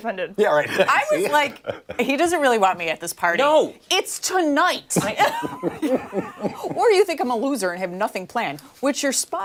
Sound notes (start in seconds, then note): 5.0 laughter